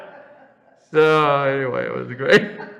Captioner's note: laughs